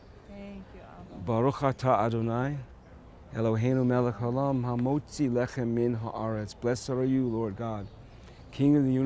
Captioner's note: speaking hebrew